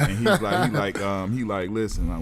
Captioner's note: laughing